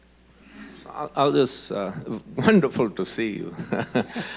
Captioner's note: laughs